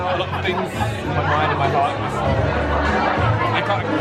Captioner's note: crowd talking